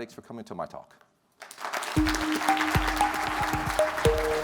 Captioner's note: clapping